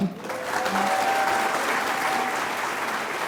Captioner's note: applause